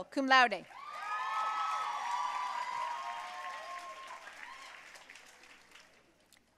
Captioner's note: audience cheering and applauding